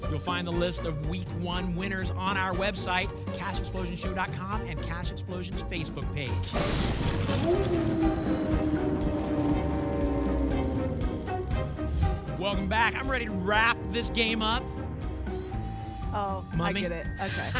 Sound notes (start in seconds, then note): 6.6 thunder; 7.2 wolf howl